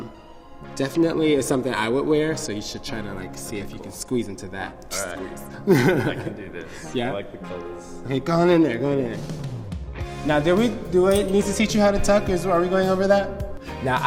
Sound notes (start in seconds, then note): 5.6 Vixen laughs